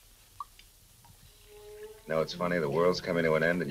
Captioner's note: coffee sloshing